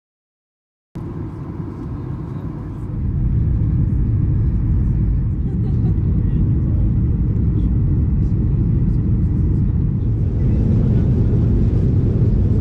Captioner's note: airplane noise